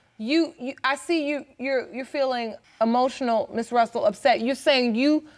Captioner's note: stammering